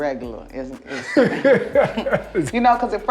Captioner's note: both laughing